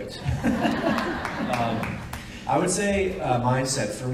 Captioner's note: audience laughs and applauds